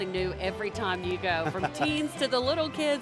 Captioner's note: laughing